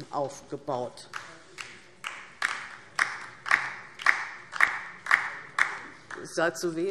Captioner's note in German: Beifall DIE LINKE - Zurufe